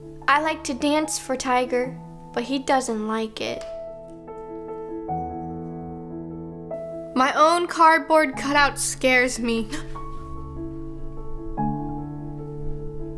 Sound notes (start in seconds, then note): 9.6 gasps